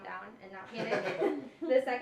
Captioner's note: laughs